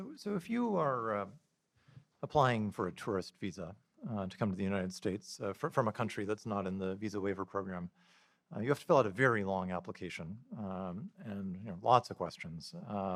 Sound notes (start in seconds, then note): none